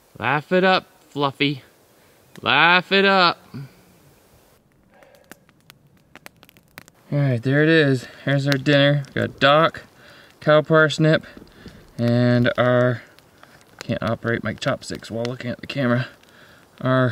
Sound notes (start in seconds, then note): 5.1 fire crackles